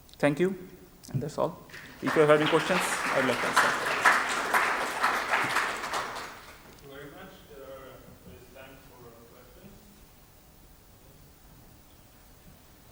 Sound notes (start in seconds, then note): 1.7 audience applause